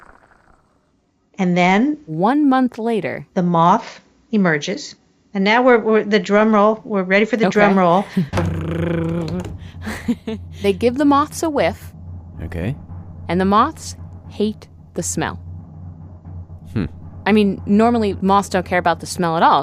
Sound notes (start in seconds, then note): 8.8 makes drumroll sound